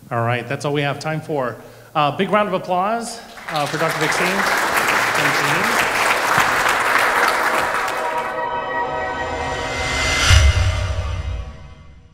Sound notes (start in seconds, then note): 3.2 applause; 7.0 dramatic music